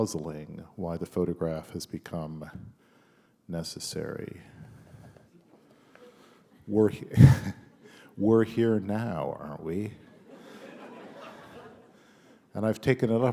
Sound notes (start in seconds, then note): 3.8 chuckle; 9.9 laughter